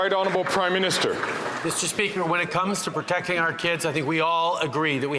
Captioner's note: some Applause